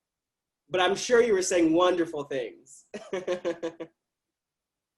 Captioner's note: chuckles